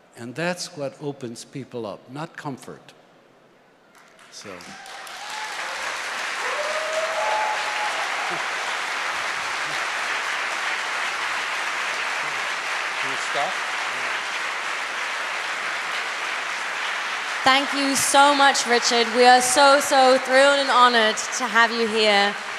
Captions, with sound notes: that's what opens people up, not comfort. (applause) Thank you so much Richard, we are so honoured to have you here.